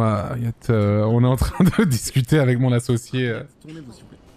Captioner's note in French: il rit